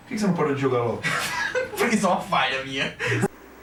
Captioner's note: laughter